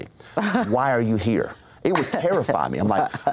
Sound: chuckles

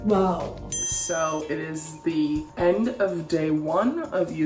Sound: bell dings

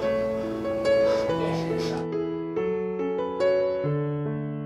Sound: sniffling

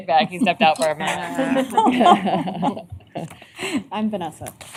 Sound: laughter

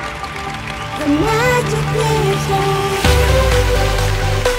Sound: applause

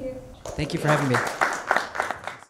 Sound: crowd applauding

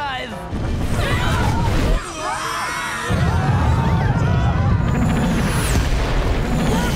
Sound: screaming

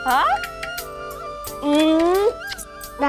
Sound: kisses

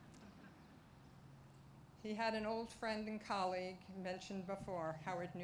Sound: laughter

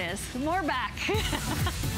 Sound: laughter

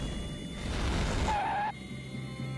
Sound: skidding

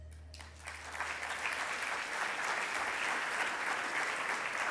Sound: audience applauds

